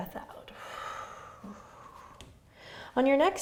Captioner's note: exhaling